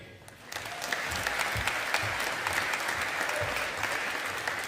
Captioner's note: audience applauding